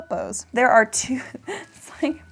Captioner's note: laughs